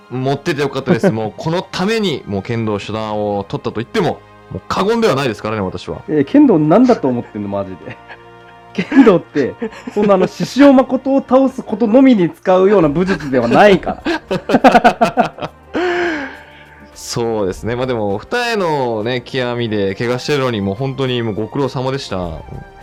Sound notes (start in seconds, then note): 13.0 both laughs